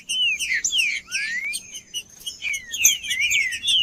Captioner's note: trinca ferro cantando